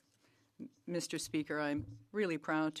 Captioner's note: speaking French